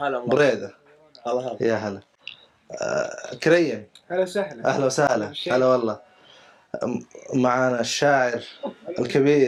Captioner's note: Arabic